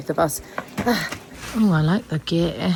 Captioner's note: sighs